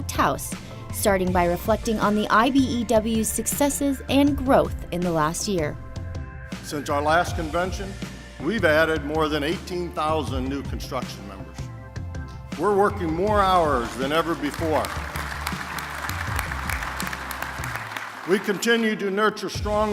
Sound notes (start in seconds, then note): 13.6 applause